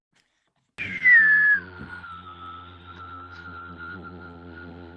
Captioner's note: engine roaring